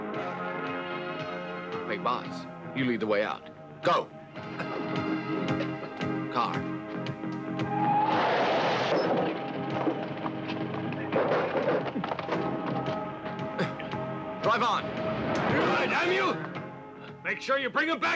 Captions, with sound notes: - Big boss, you lead the way out, go! Car. (wheels screech) (upbeat music) Drive on! - Damn you, make sure you bring him back to me!